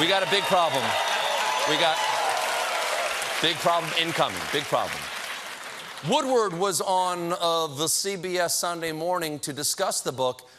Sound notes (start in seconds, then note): 7.2 applause